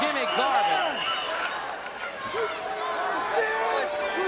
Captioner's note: audience cheers